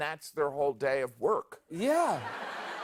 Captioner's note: laughter